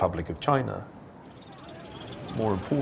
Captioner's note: people shouting